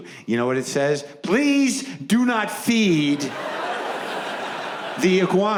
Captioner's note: audience laughs